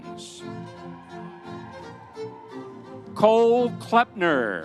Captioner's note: audience cheering